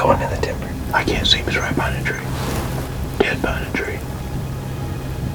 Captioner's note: whispering